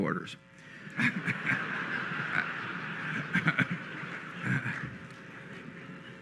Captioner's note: laughter